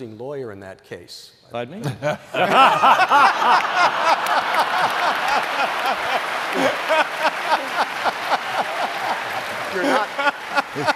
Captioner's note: laughter